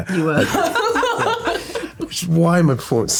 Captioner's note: laughter